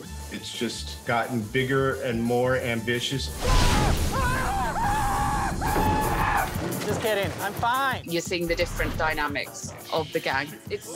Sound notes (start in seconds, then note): 3.4 screams